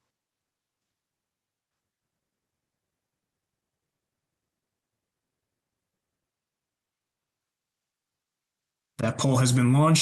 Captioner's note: poll in progress - no audio